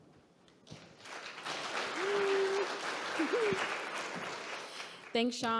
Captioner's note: audience clapping